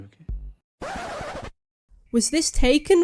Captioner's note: record scratch